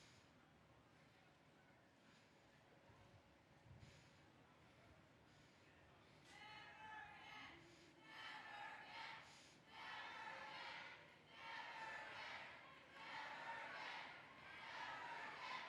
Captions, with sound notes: - [Crowd] Never again, never again, never again, never again, never again, never again,